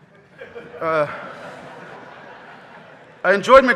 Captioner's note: audience laughing